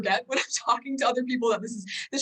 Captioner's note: chuckles